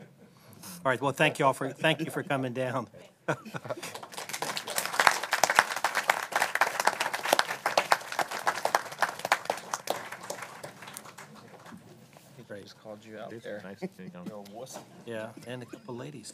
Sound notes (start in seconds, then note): 1.7 laughter; 7.4 applause